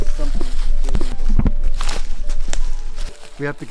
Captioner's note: leaves crunching